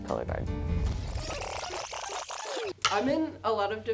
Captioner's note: rewind sound effect